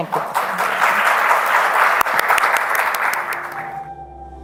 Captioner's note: applause